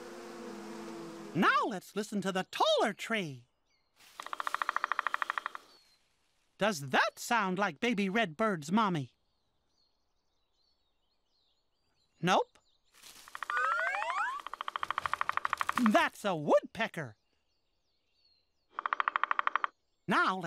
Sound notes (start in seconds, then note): 5.9 pecking